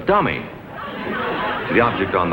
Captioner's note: audience laughs